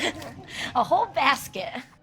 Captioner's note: laughs